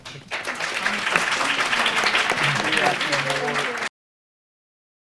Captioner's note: audience applauding